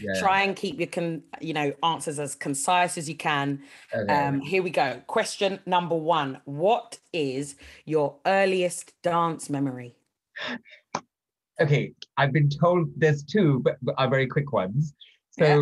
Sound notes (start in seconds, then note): 10.4 gasps